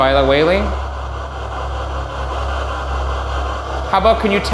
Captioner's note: static buzzing